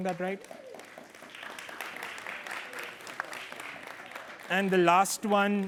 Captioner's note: applause